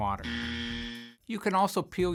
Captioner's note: buzz